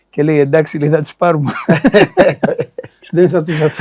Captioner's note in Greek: γέλια